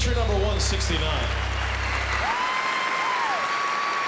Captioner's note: cheering